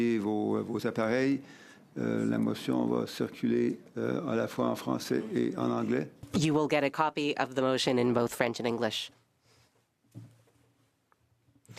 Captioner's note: speaking French